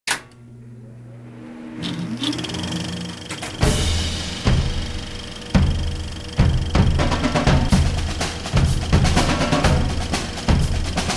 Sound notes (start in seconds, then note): 0.1 switch flipping; 1.8 cinematography machine starting; 3.6 marching band music